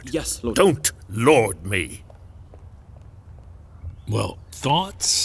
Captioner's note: footsteps briskly leaving